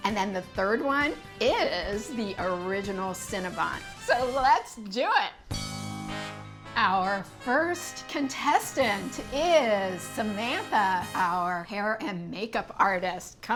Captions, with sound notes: and then the third one is the original Cinnabon. So let's do it. (bell dinging) (upbeat music) Our first contestant is Samantha, our hair and makeup artist.